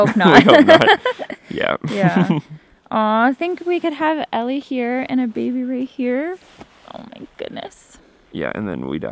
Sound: laughing

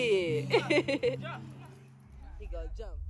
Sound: woman laughing

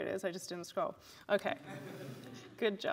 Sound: laughter

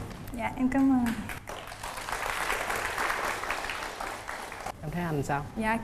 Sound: applause

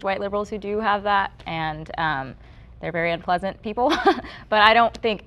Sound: chuckles

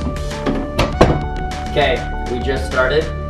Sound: door latches

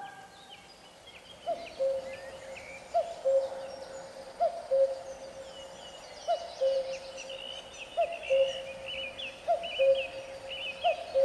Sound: bird song

